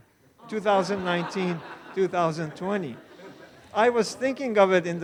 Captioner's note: all laughing